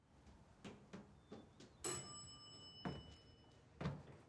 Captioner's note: elevator bell dings